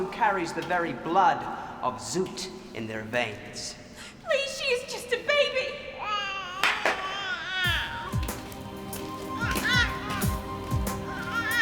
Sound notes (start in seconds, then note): 5.8 Brady cooing; 7.6 uptempo music